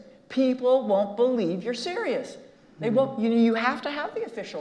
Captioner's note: none